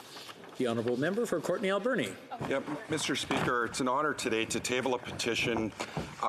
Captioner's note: speaking in French